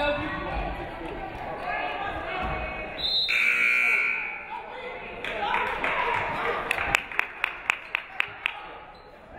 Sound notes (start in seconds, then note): 3.0 referee whistles; 3.2 buzzer buzzes; 5.2 audience clapping